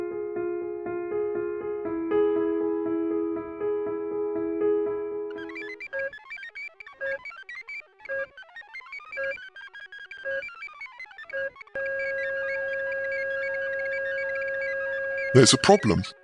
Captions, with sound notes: [beeping] [Heart monitor flatlines...] There’s a problem.